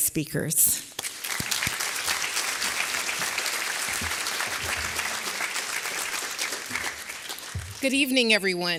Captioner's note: applause